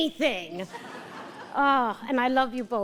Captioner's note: audience laughter